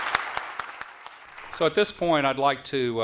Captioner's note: applause